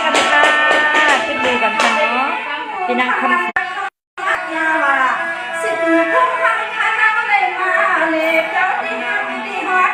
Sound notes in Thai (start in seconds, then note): 0.1 ปรบมือ